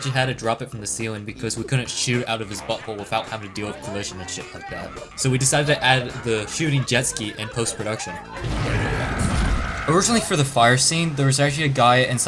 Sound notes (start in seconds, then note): 8.0 screeches